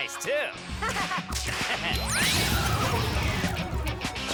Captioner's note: laughing; energy hums